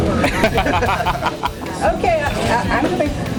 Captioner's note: group laughs